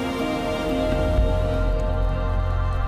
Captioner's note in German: Dumpfe Klänge